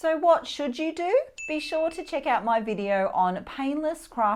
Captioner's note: bell dings